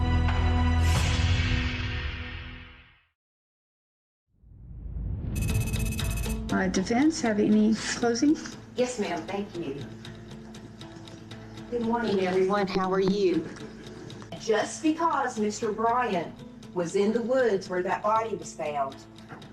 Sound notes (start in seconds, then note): 0.0 tense music fading; 6.0 tense music; 6.3 text clicking